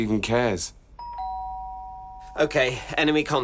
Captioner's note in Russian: Дверной звонок